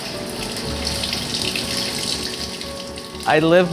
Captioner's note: water running